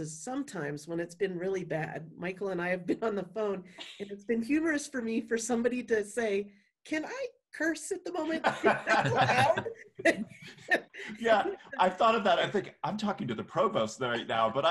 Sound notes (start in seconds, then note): 8.3 laughing